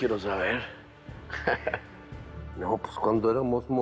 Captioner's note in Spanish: Risas